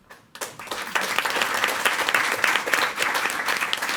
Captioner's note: all applauding